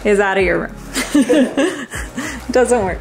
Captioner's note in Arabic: أمي تضحك